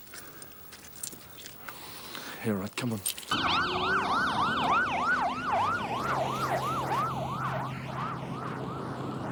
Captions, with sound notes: - Yeah, all right, come on. (sirens wailing)